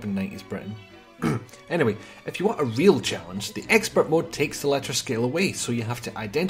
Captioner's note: ahem